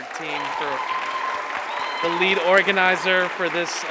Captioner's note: attendees cheering